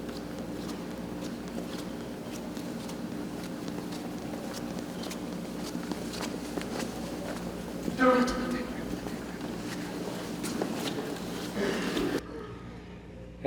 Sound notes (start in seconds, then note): 1.5 clothes swishing; 1.5 footsteps tapping; 11.5 attendee coughs